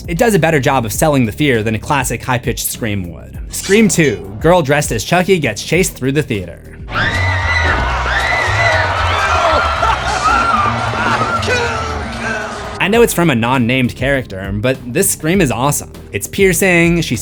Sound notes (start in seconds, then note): 6.9 screams